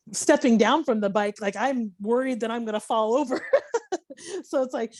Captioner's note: laughing